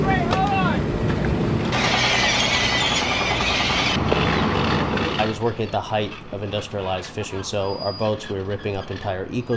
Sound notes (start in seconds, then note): 1.7 cawing seabirds, chains clanking, machinery